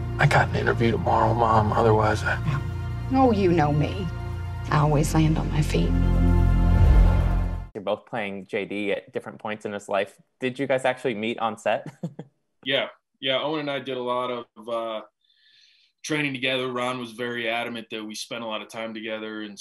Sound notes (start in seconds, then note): 6.5 dramatic musical playing; 12.3 laughing